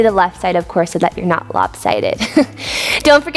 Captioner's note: chuckles